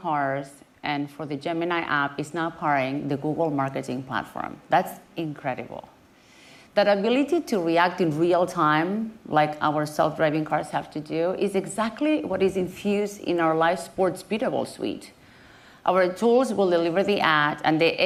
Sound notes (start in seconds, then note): none